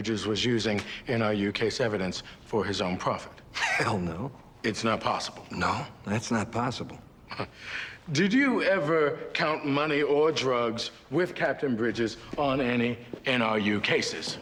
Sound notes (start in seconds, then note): 3.5 scoffing